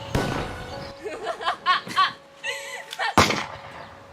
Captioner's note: blaster shot; laughs; gunshot